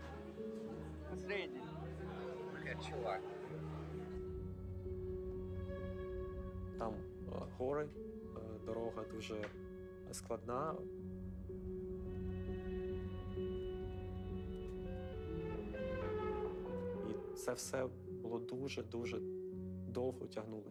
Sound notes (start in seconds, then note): 11.7 police siren sounding